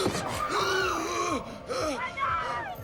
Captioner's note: gasping